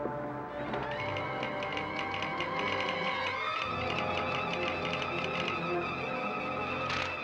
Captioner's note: suspenseful music; telegraph machine tapping